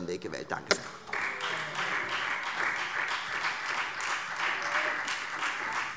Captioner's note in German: Beifall Freie Demokraten